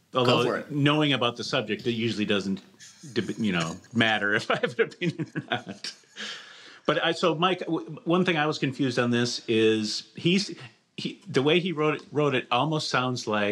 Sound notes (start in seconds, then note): 5.7 laughs